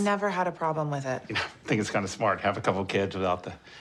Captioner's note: snorts